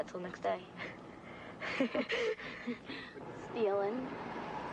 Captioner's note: laughs